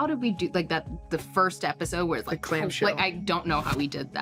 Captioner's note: grunts